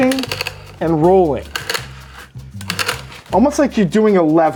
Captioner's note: peppercorns crackling